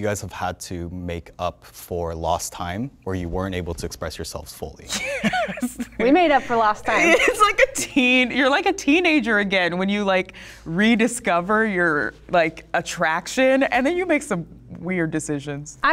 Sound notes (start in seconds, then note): 4.9 laughs